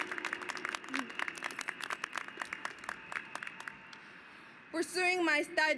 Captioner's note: applause